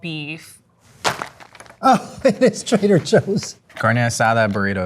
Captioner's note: package thumping